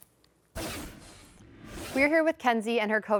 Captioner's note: transition scrapes